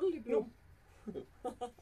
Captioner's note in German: Lachen